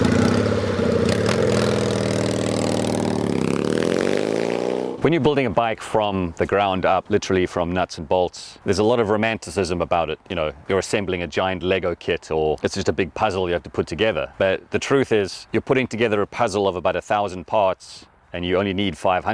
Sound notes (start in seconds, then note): 1.8 engine roars